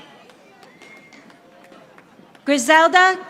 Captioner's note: audience applauding